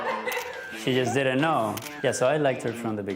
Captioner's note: laughing